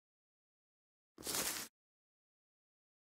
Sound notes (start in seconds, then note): 1.2 sound of step